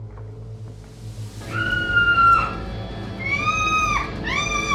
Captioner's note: Nancy screaming